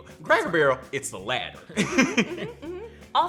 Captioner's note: laughs